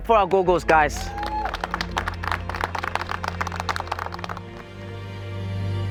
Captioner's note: applause